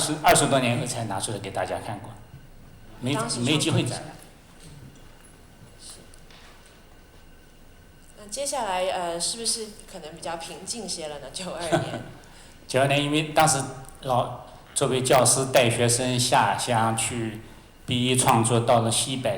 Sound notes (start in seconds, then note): 8.7 Mandarin; 11.6 laughter; 12.7 Mandarin